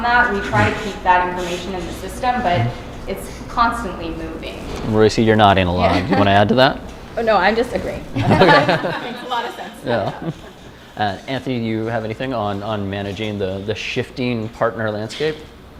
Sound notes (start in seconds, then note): 8.1 laughter